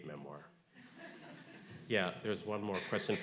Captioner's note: audience laughing